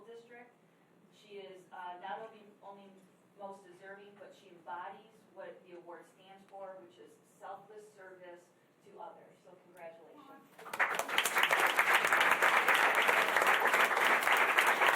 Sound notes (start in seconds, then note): 10.6 applause